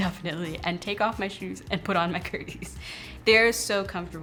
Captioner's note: laughs